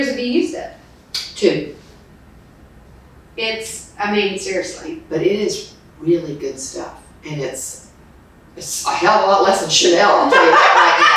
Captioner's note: laughs